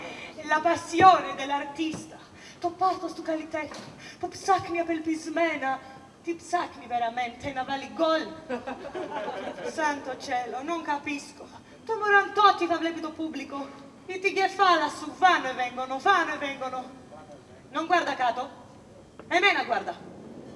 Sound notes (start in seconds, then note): 8.5 γέλια στην ορχήστρα